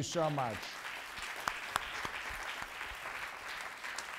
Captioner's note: applause